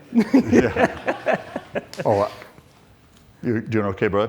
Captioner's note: laughs